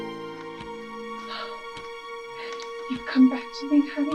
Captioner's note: Kathryn sighs